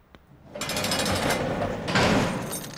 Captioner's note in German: Zellentür klirrt auf; Zellentür knallt zu